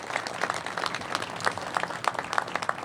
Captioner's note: applause